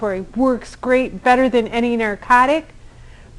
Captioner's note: none